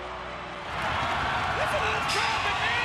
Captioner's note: crowd cheering